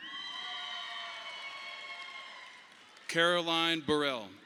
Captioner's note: audience applauding